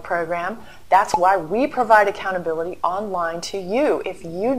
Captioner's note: pop